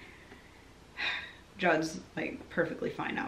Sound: sighing

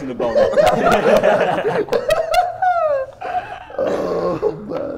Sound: Sidemen laughing

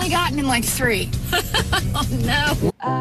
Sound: laughing

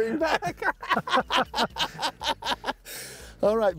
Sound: laughing

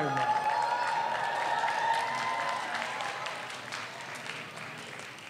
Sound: audience cheers

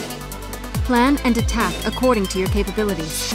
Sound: voiceover

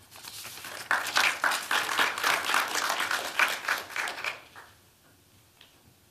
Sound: applause

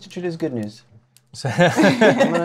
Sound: laughter

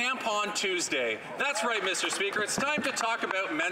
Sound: some Applause

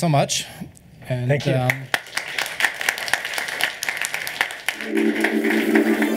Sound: applause

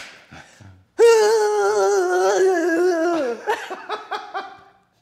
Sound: laugh

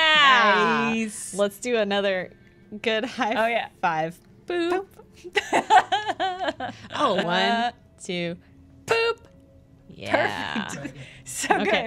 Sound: laughter

